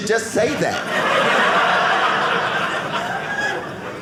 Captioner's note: audience laughing